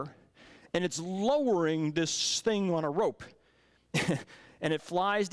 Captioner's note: chuckles